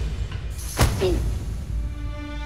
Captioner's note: impact sound